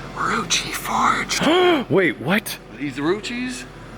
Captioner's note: gasps